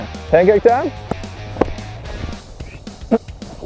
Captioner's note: mumbles; upbeat music